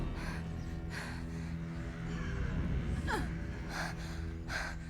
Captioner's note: woman breathes heavily